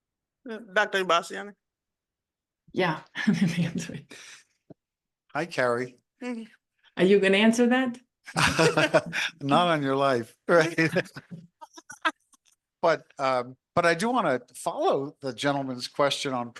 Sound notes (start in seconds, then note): 10.6 laughs